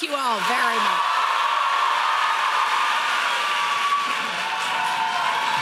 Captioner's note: audience cheering loudly